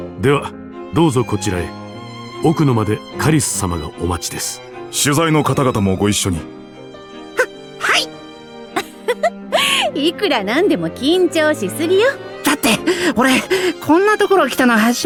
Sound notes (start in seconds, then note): 8.8 giggle